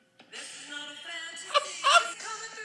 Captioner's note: and of course, wHEEZE